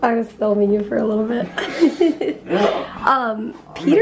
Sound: chuckling

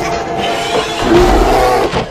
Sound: bear growls; neigh

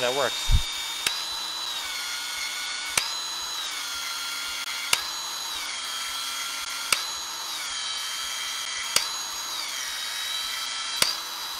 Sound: tool whirring

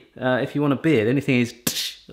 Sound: popping

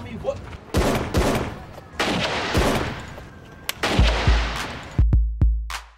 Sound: gunshots

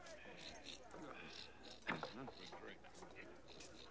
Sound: Kiog snorting

